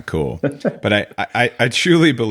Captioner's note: laughs